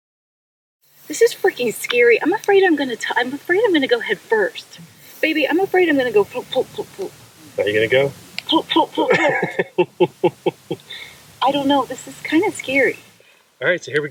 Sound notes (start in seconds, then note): 9.0 man laughing